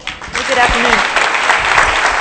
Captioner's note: applause